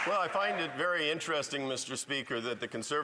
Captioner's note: some Applause